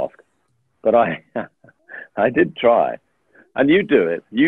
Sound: chuckling

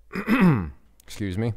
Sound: clearing throat

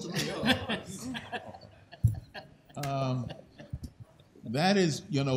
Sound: laughter

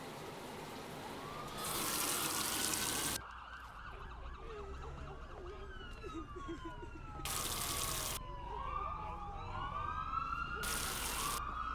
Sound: people crying; sirens wailing

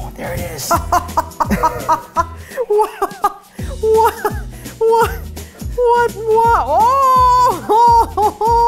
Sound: laughing

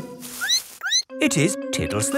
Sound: squeaks

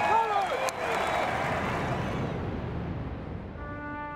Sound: clapping and cheering; plane's engine roaring; trumpet playing

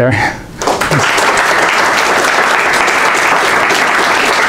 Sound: students clapping

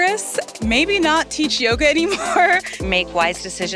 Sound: laughs

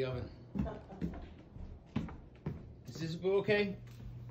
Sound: chuckling

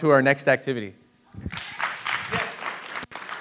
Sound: audience applauds

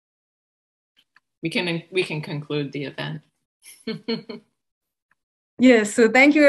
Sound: chuckles

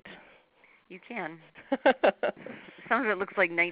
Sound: chuckles

